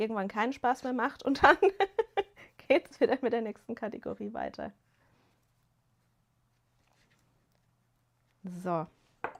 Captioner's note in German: gelächter